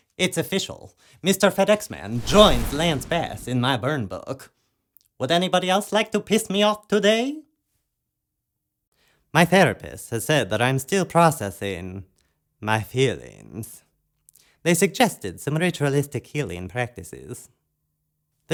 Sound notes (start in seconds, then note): 2.0 flames